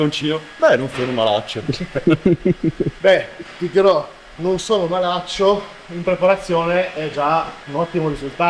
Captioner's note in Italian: risate